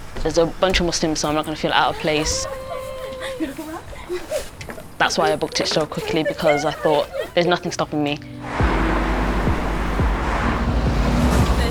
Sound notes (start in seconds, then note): 3.3 passengers chatting and giggling; 8.3 car rushing